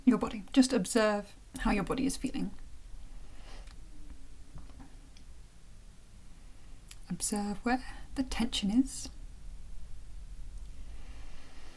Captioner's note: sigh